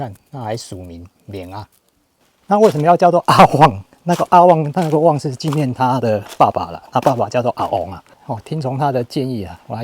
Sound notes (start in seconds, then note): 7.7 Taiwanese